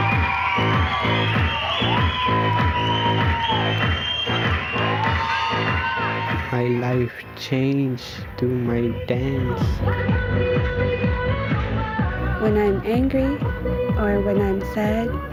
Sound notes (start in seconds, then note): 0.0 cheers and Applause